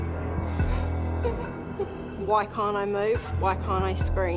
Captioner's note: whimpers